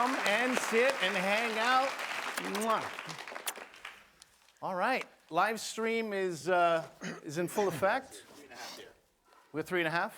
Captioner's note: applause